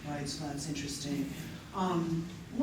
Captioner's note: none